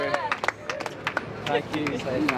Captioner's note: applause